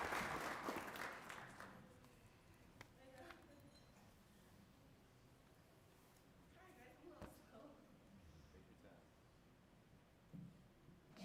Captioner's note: applause